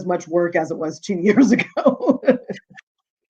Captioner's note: laughing